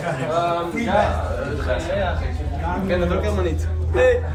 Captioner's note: crowd chattering